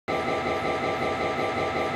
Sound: MRI Sound

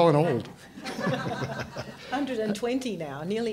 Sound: laughter

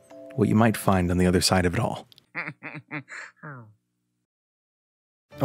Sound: Luigi Laughs Peacefully

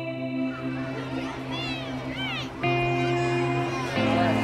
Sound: kids talking

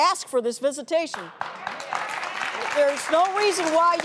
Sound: crowd clapping

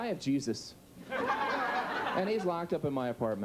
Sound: audience laughs

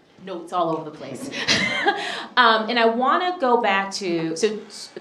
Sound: chuckles

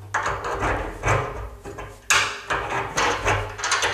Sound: metal banging

